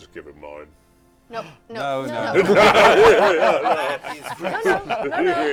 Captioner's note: laughter